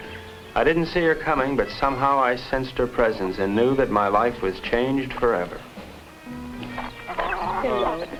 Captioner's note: speaking spanish